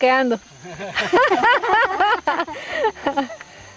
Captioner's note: laughter